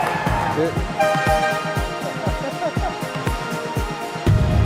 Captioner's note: honking Sound and Laughter